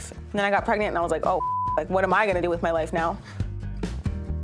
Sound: beep

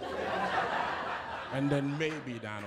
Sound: laughter

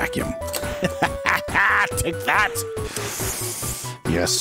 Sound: maniacal laughter lite

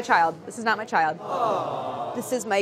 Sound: chorus sighing

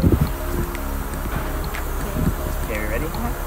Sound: laughing

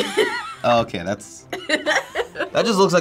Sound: laughing

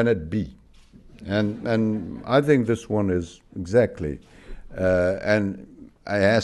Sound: laughter

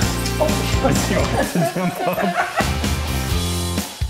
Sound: laughter

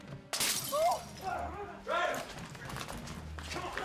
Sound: grunting

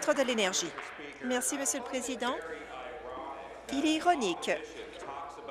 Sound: applause

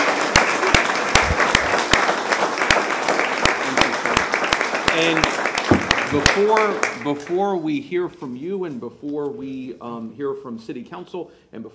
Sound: applause

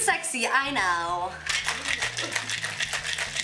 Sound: rattling

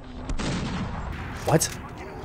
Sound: guns firing

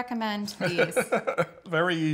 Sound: laughter

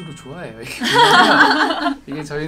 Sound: others laughing

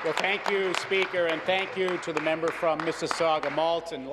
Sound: applause

